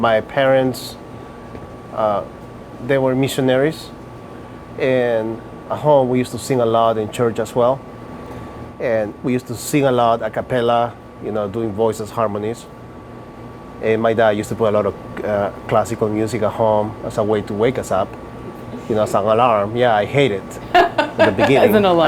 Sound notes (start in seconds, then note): 18.4 laughing